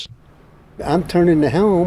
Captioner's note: room Tone